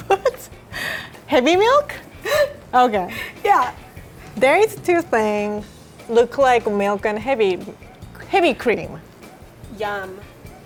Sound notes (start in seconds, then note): 0.0 laughing; 3.1 gasping